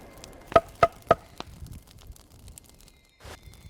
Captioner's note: hitting tree